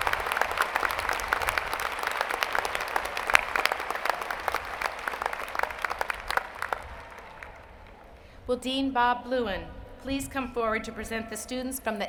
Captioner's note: applause